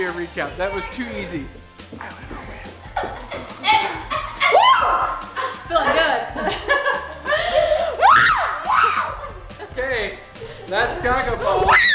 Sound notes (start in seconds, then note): 6.7 laughing; 8.0 screams; 11.7 screams